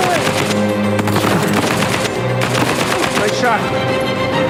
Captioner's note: gunfire